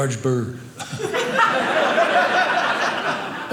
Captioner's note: audience laughing